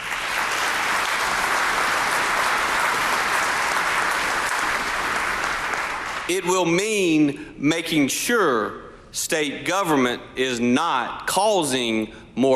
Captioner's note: applause